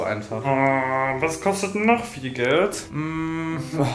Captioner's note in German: komische Laute